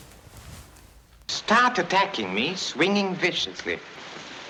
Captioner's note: none